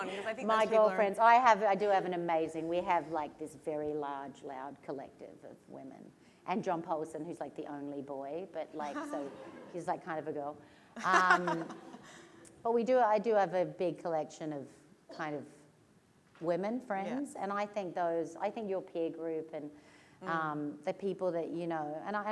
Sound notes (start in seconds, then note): 11.0 laughter